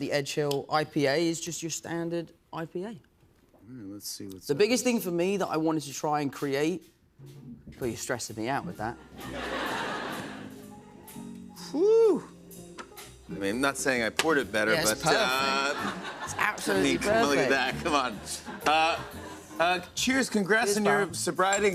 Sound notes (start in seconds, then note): 6.4 soft jazz music plays; 9.0 laughter